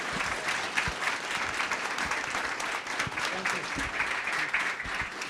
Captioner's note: audience applauding